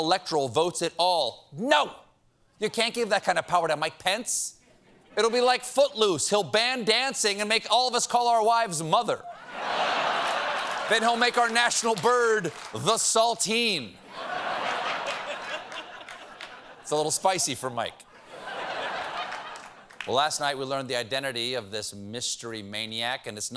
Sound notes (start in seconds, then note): 9.2 laughter; 14.0 laughter